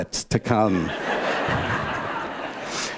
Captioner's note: laughter